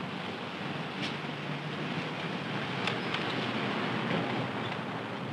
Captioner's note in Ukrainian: гуркіт транспорту